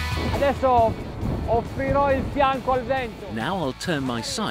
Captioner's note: upbeat rock music; speaking foreign language